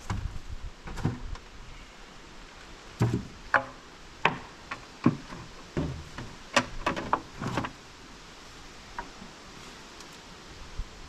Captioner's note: footsteps